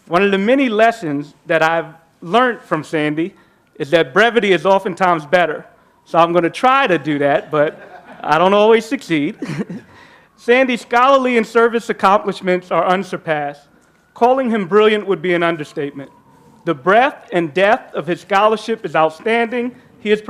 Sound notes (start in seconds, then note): 9.2 laughing; 9.3 participant laughing